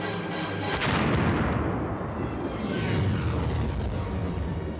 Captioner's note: explosion echoes